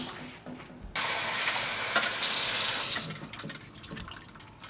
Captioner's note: water running